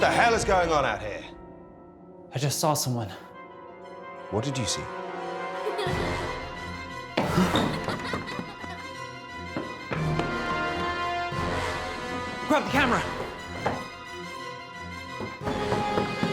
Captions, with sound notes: - What the hell is going on out here? - I just saw someone. - What did you see? (child laughing) - Grab the camera.